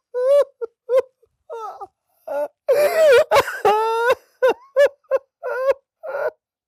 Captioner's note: cries uncontrollably